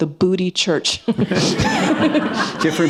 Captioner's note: laughter